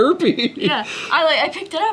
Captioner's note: laughs